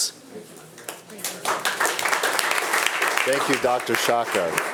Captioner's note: attendees applauding